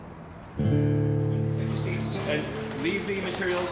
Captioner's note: classroom noises